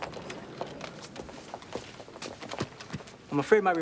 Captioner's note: footstep